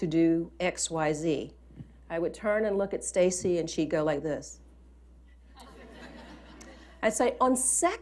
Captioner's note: laughter